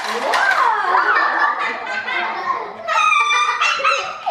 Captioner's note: laughter